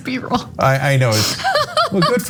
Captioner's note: laugh